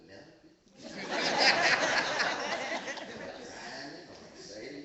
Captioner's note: laughing